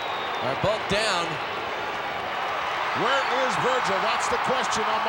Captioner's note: applause